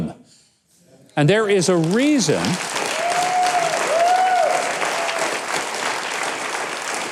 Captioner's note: audience cheers and applauds